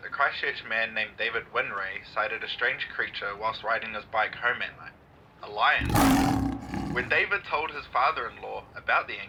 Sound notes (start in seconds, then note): 5.8 lion roars